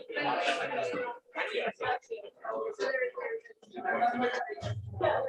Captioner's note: background chatter